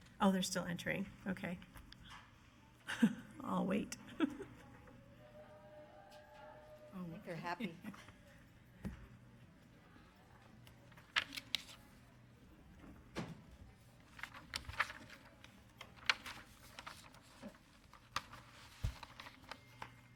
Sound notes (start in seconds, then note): 7.4 speaking softly; 11.4 papers shuffling